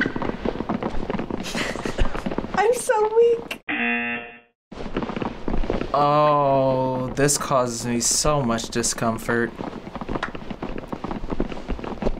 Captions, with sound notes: - (laughs) I'm so weak. (buzzer rings) - Oh, this causes me so much discomfort. (hand claps)